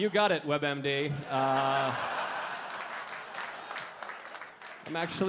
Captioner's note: audience laughing and clapping